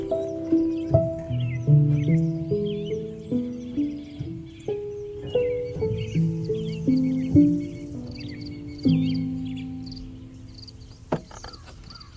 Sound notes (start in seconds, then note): 0.1 piano music continues; 4.2 insects chirping